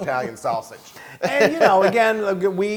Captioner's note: laugh